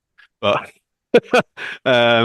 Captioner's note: laughs